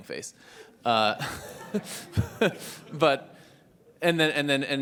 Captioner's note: laugh